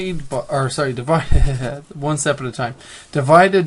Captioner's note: chuckles